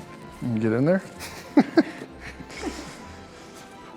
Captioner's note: laughs